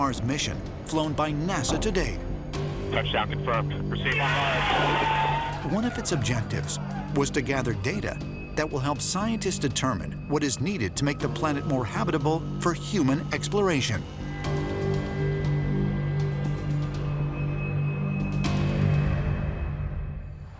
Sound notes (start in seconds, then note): 2.0 man on radio; 4.0 all cheering; 13.6 foreboding music playing